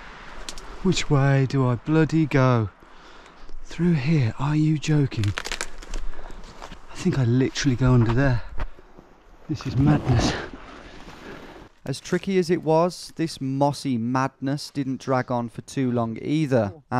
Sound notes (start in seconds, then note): 11.8 voiceover